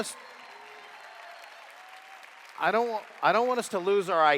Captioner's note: applause